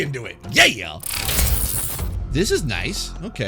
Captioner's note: digital sounds